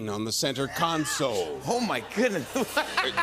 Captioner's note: laughter